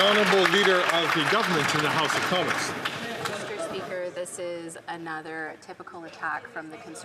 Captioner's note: some Applause